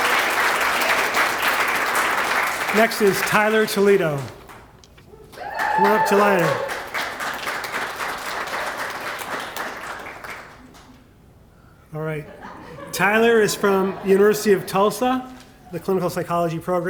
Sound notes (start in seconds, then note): 12.2 laughter